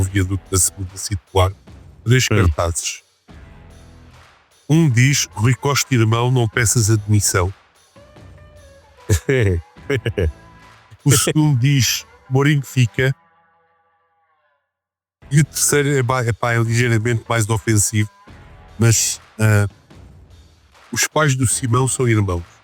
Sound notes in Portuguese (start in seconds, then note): 9.9 Risos